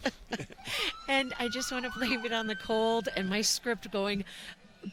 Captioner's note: laughter